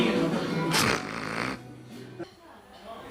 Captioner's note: snort-laughs